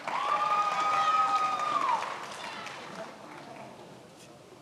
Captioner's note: many applauding